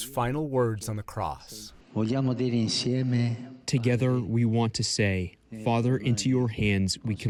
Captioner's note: through translator